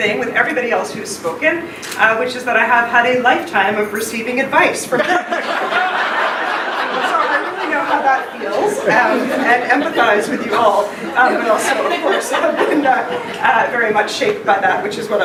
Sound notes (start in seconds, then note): 5.3 laughing